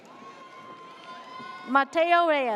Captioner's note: audience cheers